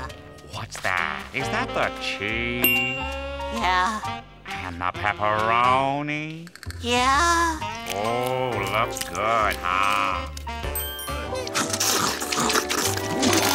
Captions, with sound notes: What's that? Is that cheese? Yeah. And the pepperoni? Yeah. Oh, looks good, huh? [slurping]